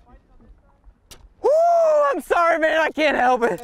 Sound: yelling

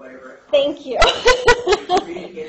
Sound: laughs

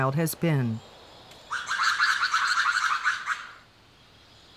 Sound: lemur call

